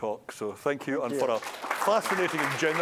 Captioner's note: applause